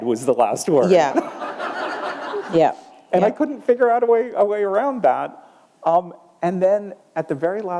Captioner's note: laughter